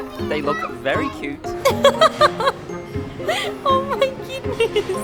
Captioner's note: laughing